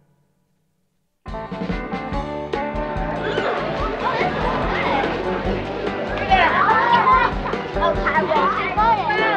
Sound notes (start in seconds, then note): 1.2 lively music playing; 2.8 people chattering